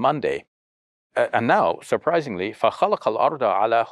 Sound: speaks foreign language

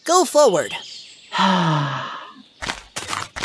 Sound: sigh

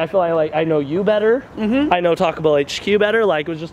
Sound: none

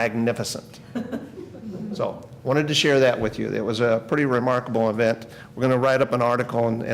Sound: laughter

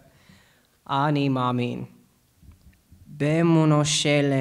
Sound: speaking Hebrew

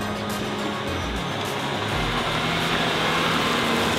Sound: van rumbling

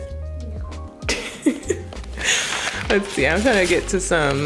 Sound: laughs

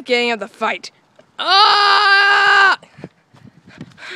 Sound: screaming

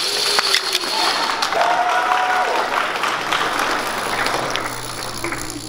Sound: applause

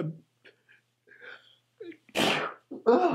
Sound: begins to sneeze; sneezes

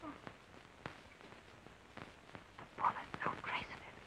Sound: whisper

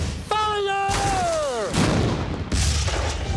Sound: explosions

